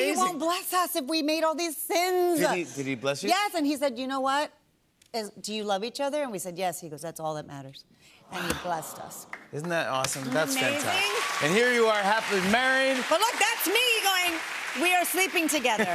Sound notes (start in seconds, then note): 8.8 audience aws